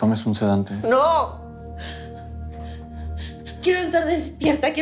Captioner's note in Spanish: Sollozos